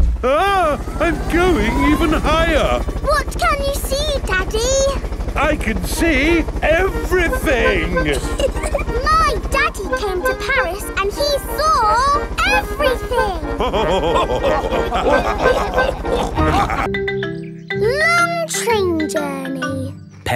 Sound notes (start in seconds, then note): 8.6 chuckles; 13.4 all laughing